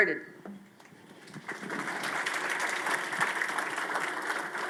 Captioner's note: audience claps